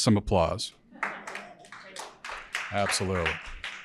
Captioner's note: audience applauding